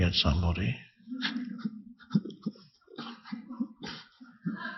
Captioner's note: all laughing